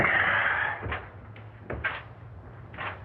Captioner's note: none